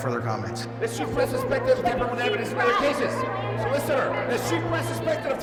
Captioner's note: people chattering indistinctly